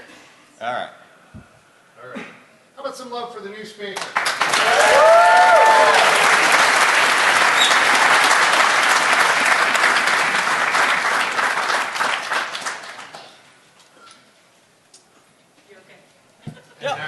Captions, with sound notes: new speaker! [Applause] All right. Back to tracking people or not tracking them. So. All